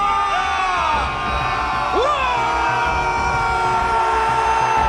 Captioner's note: team shouting